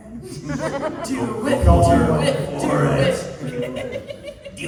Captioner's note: chanting